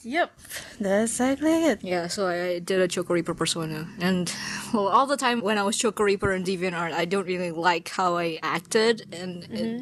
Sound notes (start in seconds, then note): 4.2 sighs